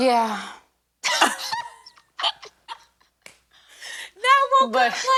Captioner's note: both laughing